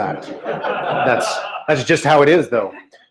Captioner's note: laughter